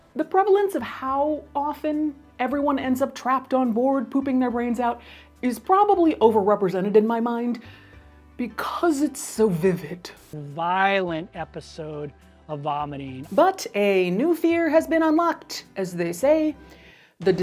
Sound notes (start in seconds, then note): 9.6 static hisses